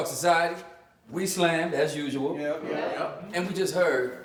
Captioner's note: crowd